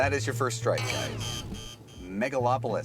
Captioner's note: buzzing